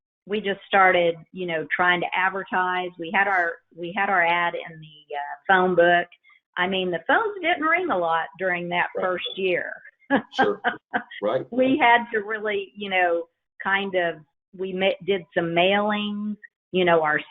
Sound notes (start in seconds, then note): 10.2 laughs